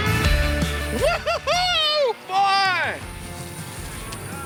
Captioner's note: cheers